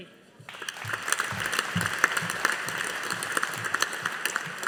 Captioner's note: audience applauding